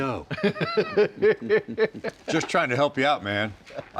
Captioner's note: laughs